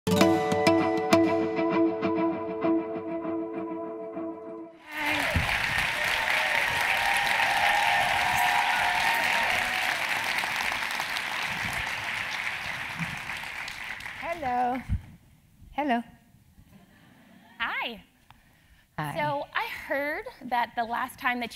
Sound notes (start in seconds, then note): 4.8 applause